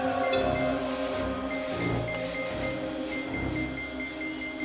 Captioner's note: detector beeps